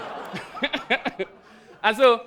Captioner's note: audience laughs